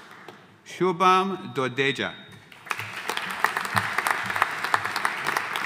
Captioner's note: audience applauding